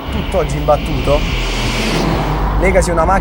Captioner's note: echo of the dark rumble